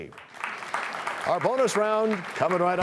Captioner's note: applause